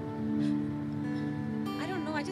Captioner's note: Sighs